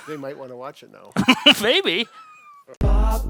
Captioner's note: giggles